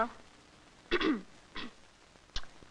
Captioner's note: clears throat